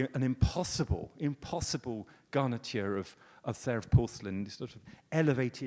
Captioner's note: speaks foreign language